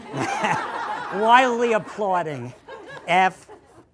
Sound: laughter

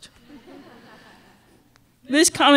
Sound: laughter

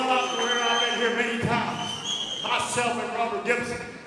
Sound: audience cheers

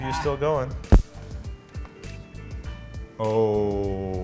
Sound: snapping sound

